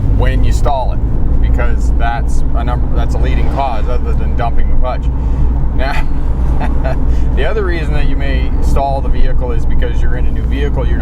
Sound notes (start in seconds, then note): 5.8 chuckling